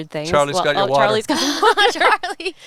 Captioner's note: laughing